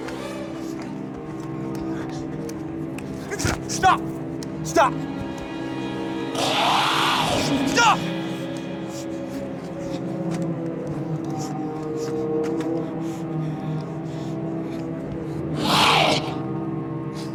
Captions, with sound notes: STOP, STOP! [ SHRIEKS ] STOP! [ GROWLS ]